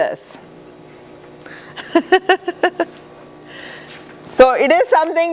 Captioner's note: laughter